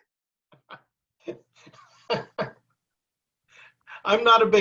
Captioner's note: laughs